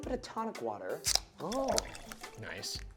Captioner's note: can cracks open